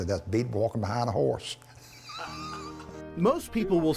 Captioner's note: laughs